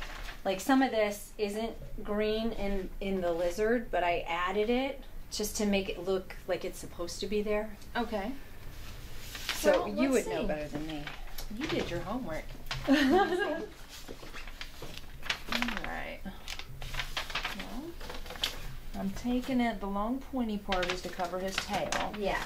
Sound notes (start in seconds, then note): 12.8 artist laughs